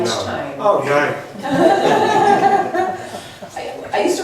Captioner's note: voiceover; laughs